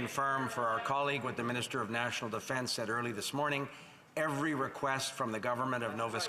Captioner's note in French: voix de l'interprète